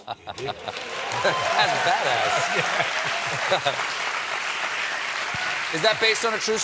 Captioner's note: cheers and applause